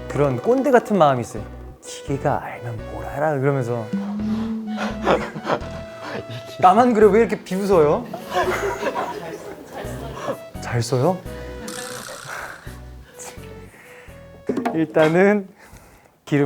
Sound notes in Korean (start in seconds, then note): 3.8 웅성웅성